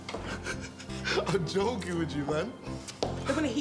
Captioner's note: laughs